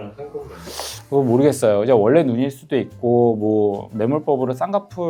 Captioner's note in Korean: 콧방귀